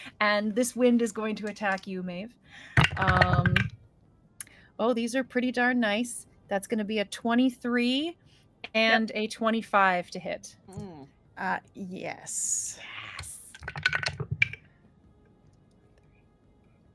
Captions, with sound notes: And this wind is going to attack you, Maeve. (dice rolling) Oh, these are pretty darn nice. That's gonna be a 23 and a 25 to hit. - Mm. - Yes. - Yes. (dice rolling)